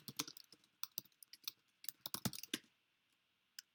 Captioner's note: keyboard clicks